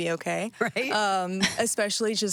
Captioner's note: laughing